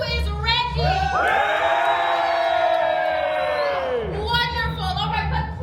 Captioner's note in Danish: publikum jubler og klapper